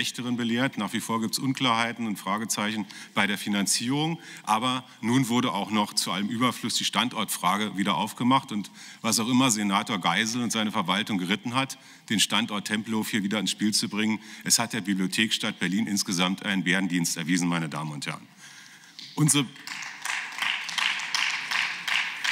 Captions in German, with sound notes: Aber im fünften Jahr sind wir auch etwas eines Schlechtern belehrt. Nach wie vor gibt es Unklarheiten und Fragezeichen bei der Finanzierung. Aber nun wurde auch noch zu allem Überfluss die Standortfrage wieder aufgemacht und was auch immer Senator Geisel und seine Verwaltung geritten hat, den Standort Tempelhof wieder ins Spiel zu bringen. Es hat der Bibliothekstadt Berlin insgesamt einen Bärendienst erwiesen.(Beifall) Meine Damen und Herren. Unsere